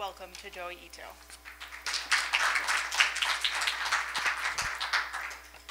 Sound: applause

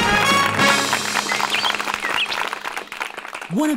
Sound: applause

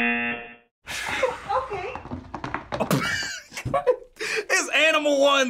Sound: laughs

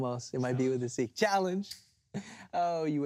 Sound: snaps fingers

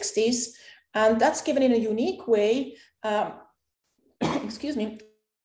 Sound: coughs

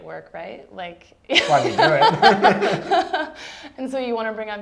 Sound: laughs

